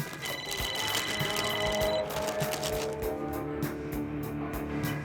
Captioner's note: bottles clanking; phone ringing